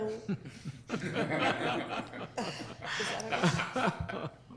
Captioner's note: board laughing